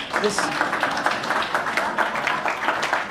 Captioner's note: applause